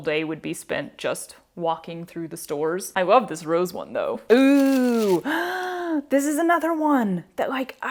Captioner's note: gasp